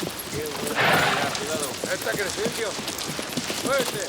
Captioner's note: gang members chatter